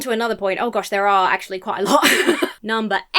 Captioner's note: laughs nervously